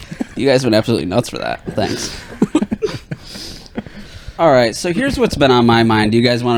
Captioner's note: laughing